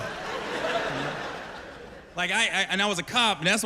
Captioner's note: laughter